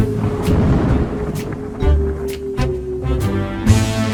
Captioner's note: mysterious music; thunder rumbling